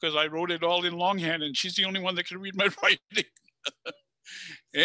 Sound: laughs

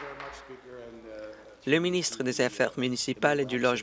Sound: applause

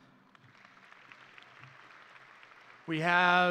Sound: audience and graduates applauding

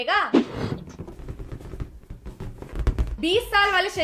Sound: balloon tapping noise

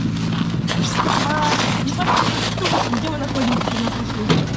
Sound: speaking Russian

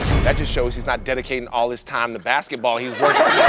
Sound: laughter

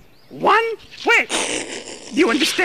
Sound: ernie laughs

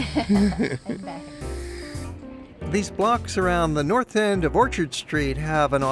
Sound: laughter

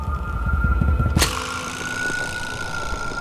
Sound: snake Rattle

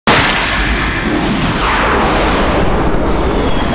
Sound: rocket launch

